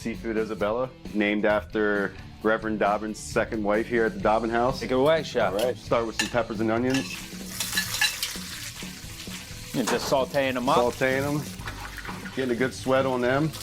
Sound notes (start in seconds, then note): 6.8 dishes clanging